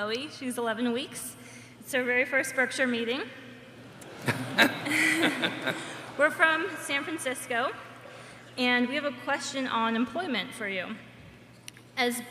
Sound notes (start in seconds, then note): 3.8 laughter